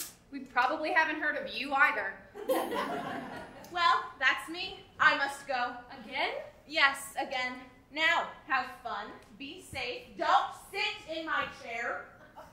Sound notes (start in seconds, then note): 2.4 audience laughing